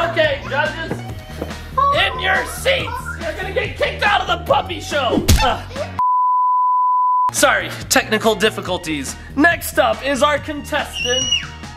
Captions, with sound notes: Okay, judges! In your seats! You're gonna get kicked out of the puppy show! (television beeping) Sorry. Technical difficulties. Next up is our contestant,